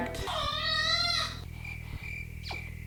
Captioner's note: baby cries; crickets chirping